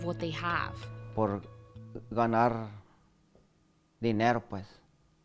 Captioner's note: speaking in foreign language